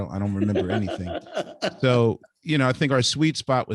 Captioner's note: laughing